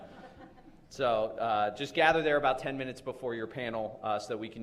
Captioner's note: laughter